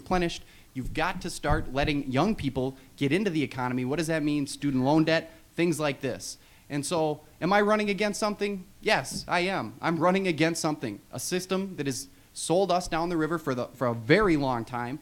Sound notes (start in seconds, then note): none